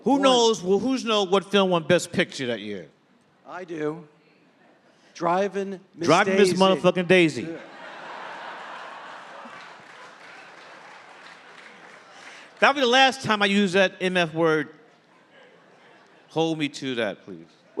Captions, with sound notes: - Who knows what film won Best Picture that year? - I do. Driving Miss Daisy Drive. - Driving Miss mother fucking Daisy. [audience laughing] That will be the last time I used that MF word. Hold me to that, please.